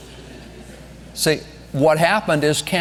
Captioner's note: congregation laughing